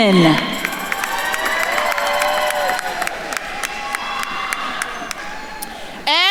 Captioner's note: attendees cheering and applauding